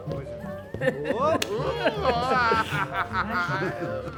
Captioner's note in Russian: общий смех